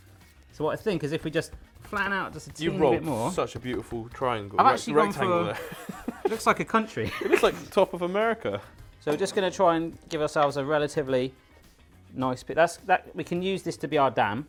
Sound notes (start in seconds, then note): 7.0 laughing; 7.0 laughs